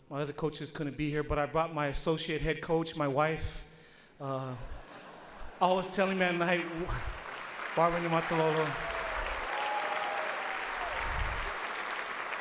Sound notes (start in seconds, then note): 4.7 audience laughs; 8.9 audience applauds